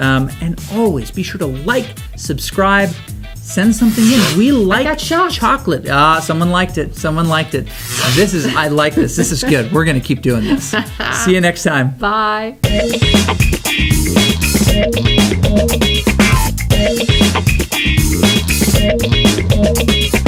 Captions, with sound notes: and also be sure to "Like," subscribe, send something in. (electricity crackles) - I got shocked. We like chocolate, ah, someone liked it. Someone liked it. (electricity crackles) This is, I like this, this is good. We're gonna keep doing this. - (laughs) - See you next time. - Bye. (lively music)